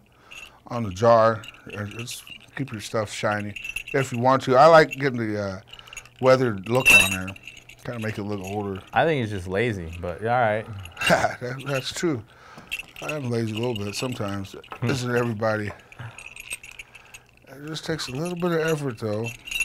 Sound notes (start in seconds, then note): 10.6 laughing